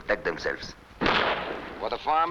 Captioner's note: gunshots blasting